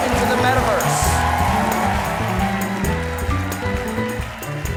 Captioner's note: applause